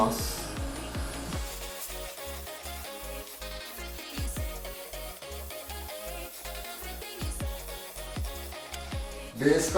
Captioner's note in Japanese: 塗装音